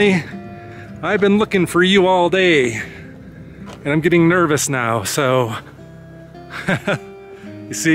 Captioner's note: laughs